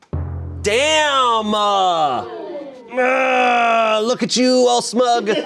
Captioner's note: deflated music; groans